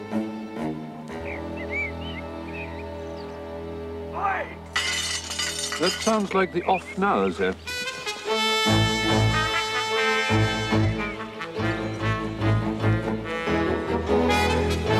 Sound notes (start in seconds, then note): 4.7 smash of glass